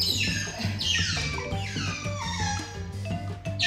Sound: whining mocha

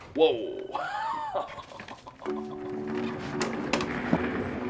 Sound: chuckling

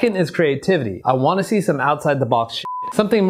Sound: beep

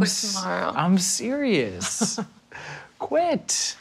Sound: chuckles; Sam chuckles

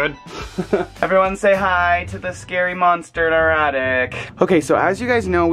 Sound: laughs

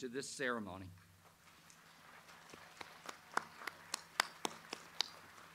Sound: audience applauds

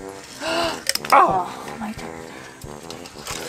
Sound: both gasp in disappointment

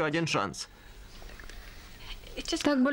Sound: none

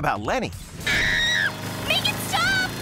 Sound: screaming

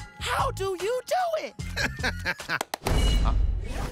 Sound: laughing

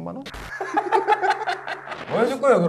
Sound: haha

